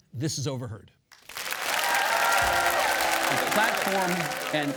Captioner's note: audience clap and cheer